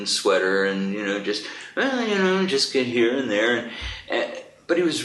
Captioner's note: hums a tune